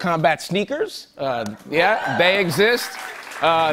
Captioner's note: cheers and applause